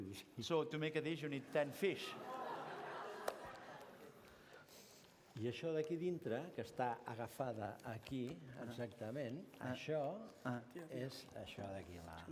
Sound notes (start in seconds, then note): 6.2 non-english speech